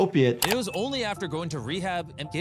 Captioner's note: mouse clicking